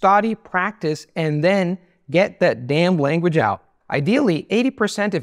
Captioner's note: southern Accent